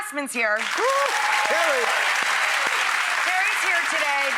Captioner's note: applause